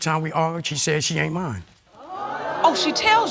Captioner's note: audience gasps